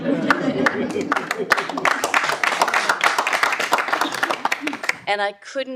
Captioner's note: audience laughing; audience applauding